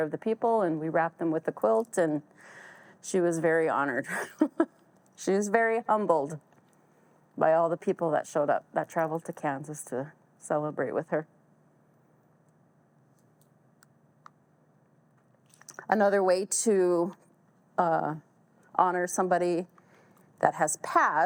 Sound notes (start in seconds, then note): 4.1 chuckles